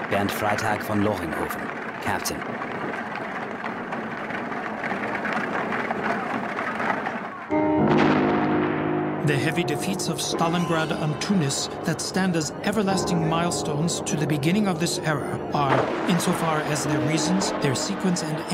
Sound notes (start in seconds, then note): 7.5 light dramatic music; 7.6 booming